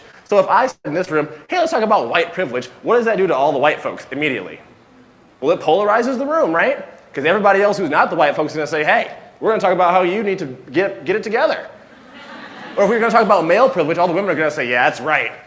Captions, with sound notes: So if I sit in this room -hey let's talk about white privilege- what does that do to all the white folks immediately? Well, it polarises the room, right? Because everybody else who's not the white folks gonna say, "hey we're going to talk about how you need to get it together." [laughter] Or if we're going to talk about male privilege all the women are going to say, "yeah, that's right